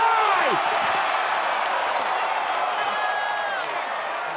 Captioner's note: crowd cheering